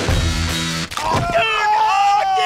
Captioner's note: crack; both screaming